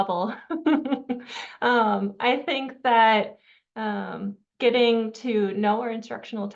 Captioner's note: chuckles